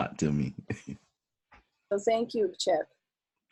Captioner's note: laughs